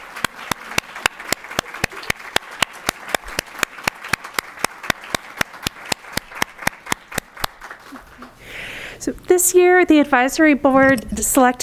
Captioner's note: applause